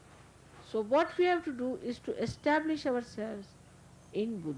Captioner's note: none